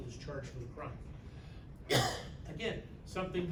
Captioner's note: coughs